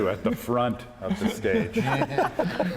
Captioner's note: laughter